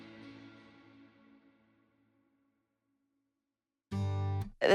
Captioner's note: silence